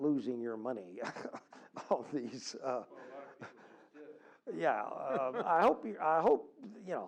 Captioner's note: laugh